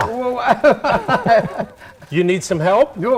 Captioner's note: laughter